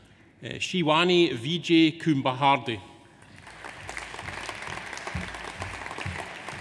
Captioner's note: audience applauds